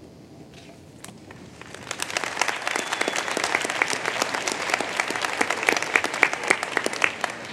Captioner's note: applause